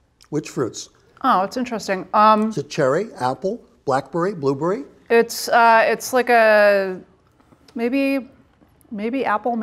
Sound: tasting

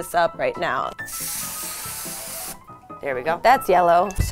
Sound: can hisses

